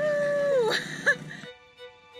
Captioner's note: laughs